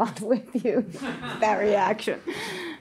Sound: audience member laughs

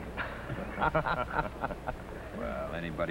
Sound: laughter

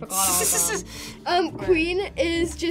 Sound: laughs

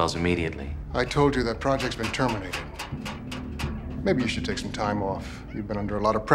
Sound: none

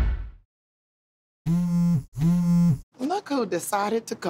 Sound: phone buzzes

